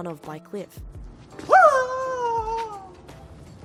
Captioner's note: bruce's signature wail